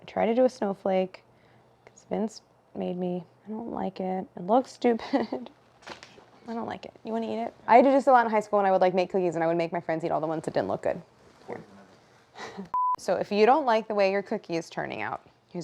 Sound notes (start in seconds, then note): 12.7 beep